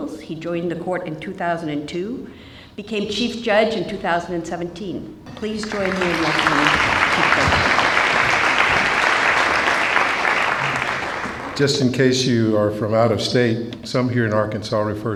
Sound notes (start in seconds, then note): 7.8 applause